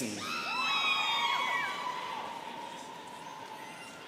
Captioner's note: students cheering